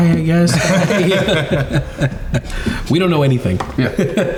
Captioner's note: all laughing